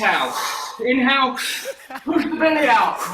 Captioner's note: inhales sharply